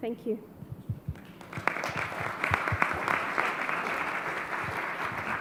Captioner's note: audience applauds